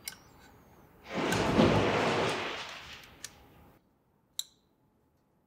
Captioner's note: material rustling